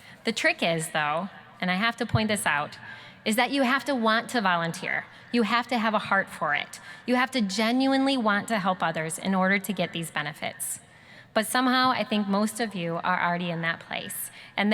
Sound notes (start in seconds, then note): none